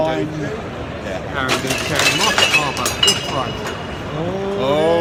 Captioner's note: glass breaks loudly